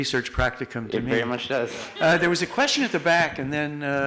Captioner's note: laughs